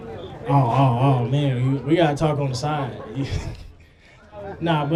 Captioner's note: laughs